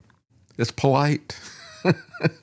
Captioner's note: laughs